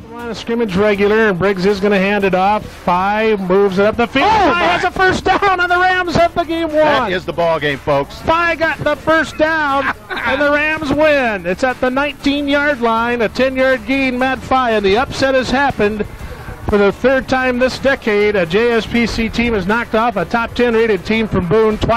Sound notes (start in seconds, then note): 9.1 cackles